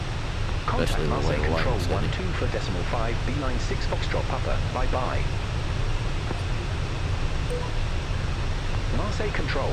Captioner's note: radio chatter